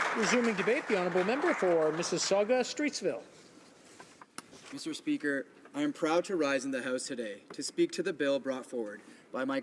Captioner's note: applause